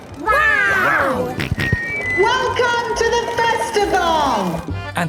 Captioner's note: on microphone; jolly folk music